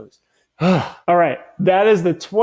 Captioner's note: speaker exhales